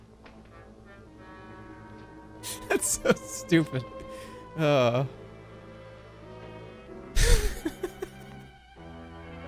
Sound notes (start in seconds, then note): 0.0 laughs; 7.2 laughs